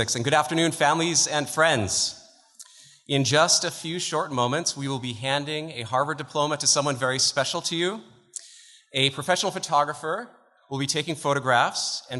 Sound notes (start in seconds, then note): none